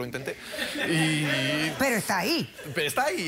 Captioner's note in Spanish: risas